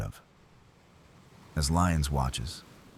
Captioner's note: wind Blowing